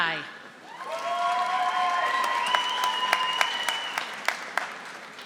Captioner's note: audience applauding